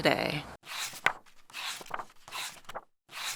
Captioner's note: pages turning